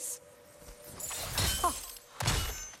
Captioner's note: laugh